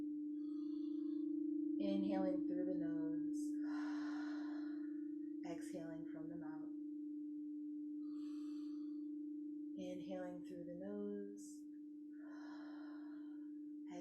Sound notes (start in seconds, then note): 0.4 inhaling deeply; 3.6 exhaling deeply; 7.9 inhaling deeply; 12.2 exhaling deeply